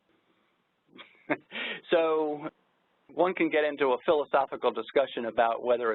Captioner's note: laughs